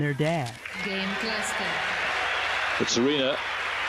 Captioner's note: crowd cheering